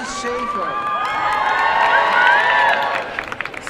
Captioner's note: cheering